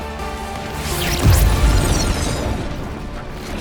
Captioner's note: crackling